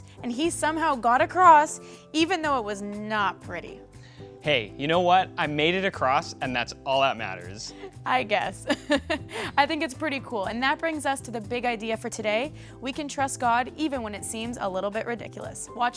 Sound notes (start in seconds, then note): 8.7 laughs